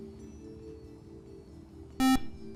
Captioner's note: buzzer